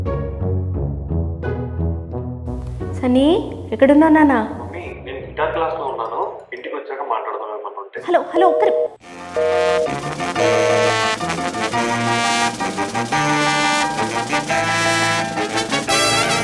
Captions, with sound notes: Sunny, where are you dear? Mom I'm in guitar class right now. I will talk to you once I come home. Hello 1 min... [hung up tone]